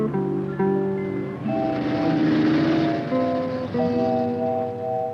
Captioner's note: car passes